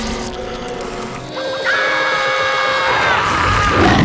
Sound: creaking; screaming; roaring

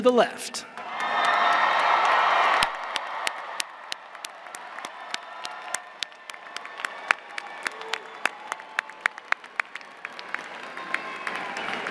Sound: cheers and applause

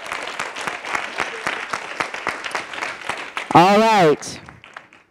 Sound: all applauding

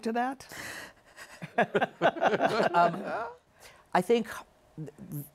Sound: laughter

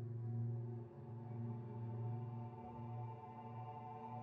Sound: none

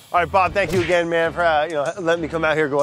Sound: punching sound

